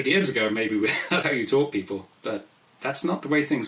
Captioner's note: laughs